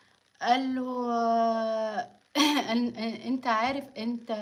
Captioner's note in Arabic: تنحنُح